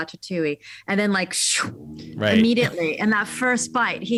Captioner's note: inhales sharply